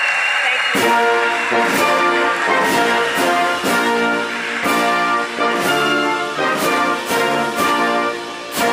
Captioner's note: applause